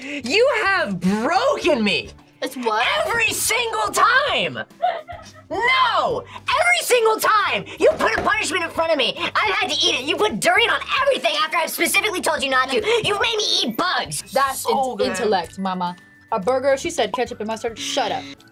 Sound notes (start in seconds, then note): 4.7 laughs